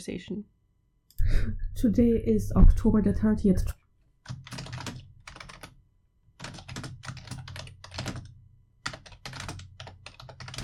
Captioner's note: typing